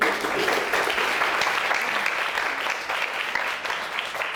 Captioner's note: audience applauding